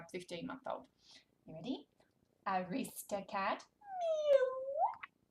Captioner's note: meows